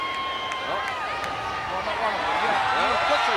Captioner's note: crowd cheering